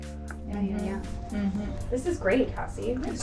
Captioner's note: woman's Voice